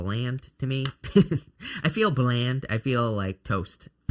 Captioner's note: chuckles